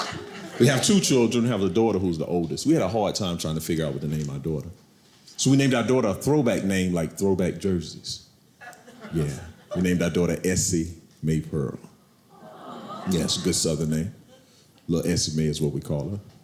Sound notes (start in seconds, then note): 0.0 audience laughing; 12.3 crowd